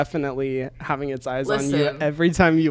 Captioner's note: laughs